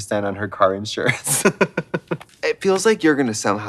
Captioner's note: Katya giggling